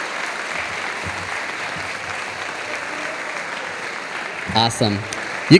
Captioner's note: audience applauding